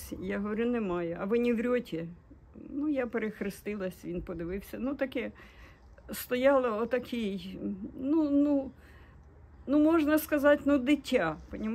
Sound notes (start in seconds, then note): 0.0 in Russian; 1.1 Russian